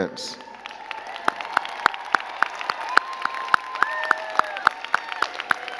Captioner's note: all cheering and clapping